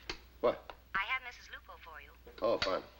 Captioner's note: voiceover